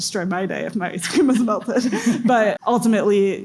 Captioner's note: presenters giggle